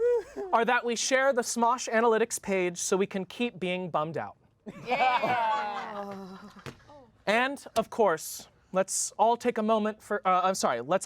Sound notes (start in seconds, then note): 4.7 everyone laughs